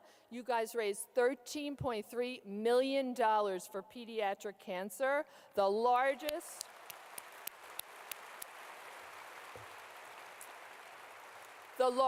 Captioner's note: clapping